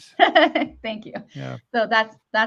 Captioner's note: chuckles